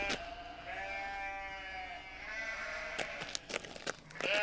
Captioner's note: sheep baaing